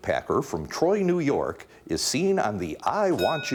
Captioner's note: bell dinging